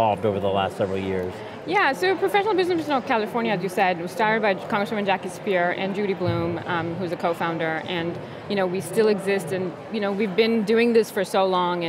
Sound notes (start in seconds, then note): none